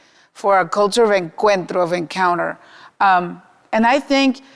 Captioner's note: speaking Spanish